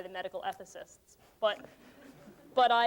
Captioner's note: laughter